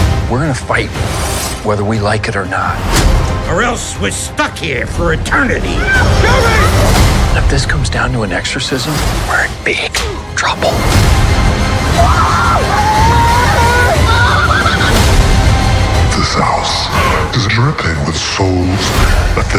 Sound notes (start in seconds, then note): 10.9 chilling orchestral music; 11.9 shrieking